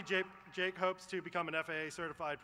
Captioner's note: applause